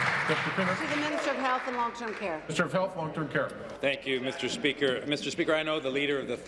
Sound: applause

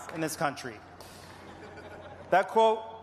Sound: applause

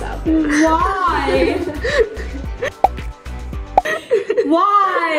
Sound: laughing

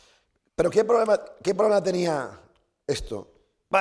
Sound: speaking spanish

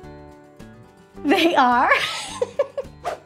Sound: laughs

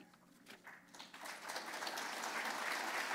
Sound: applause

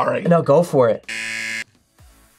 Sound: buzzer

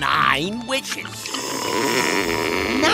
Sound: blows

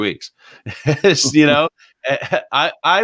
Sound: laughs

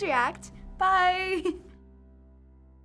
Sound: giggling

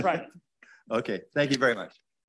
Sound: laughs

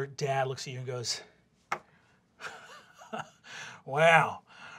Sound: scoffing

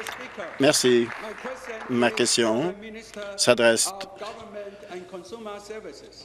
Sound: applause

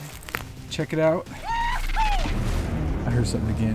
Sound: whooping

